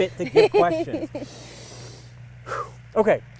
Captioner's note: inhales and exhales